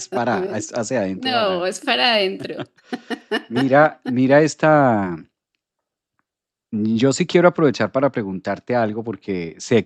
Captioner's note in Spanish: risas